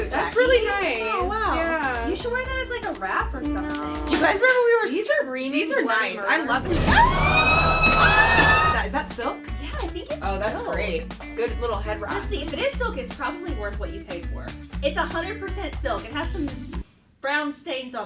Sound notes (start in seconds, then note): 6.7 screams